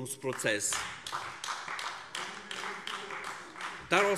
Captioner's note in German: Beifall AfD